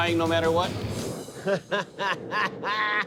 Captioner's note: laughs